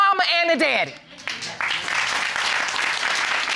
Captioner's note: audience applauding